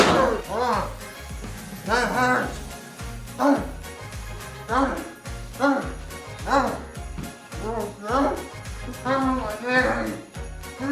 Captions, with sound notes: (broom clacks) That hurt. (Longbutt grunts) Ow, my knee.